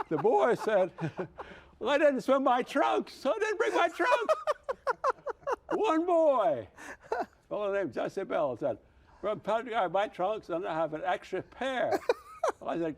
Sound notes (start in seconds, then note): 3.6 laughs